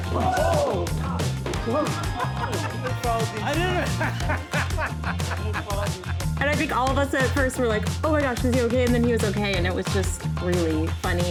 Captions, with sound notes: - Oh! I didn't-- (laughter) - And I think all of us at first were like, oh my gosh, is he OK? And then he was OK. And it was just really funny.